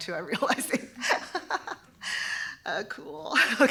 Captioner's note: laughter